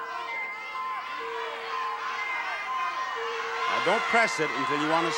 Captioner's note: audience shouting